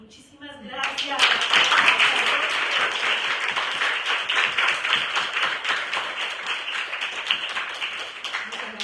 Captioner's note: applause